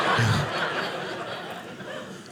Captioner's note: audience laughing